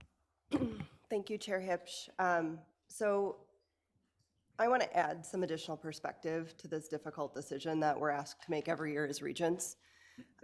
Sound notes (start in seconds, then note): 0.5 clearing throat